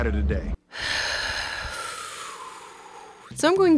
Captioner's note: Lindsay sighs exasperated